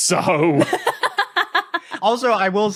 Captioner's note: laughs uproariously